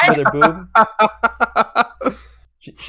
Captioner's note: laughs